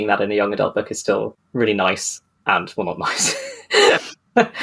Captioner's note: laughing